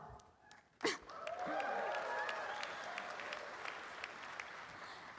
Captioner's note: applause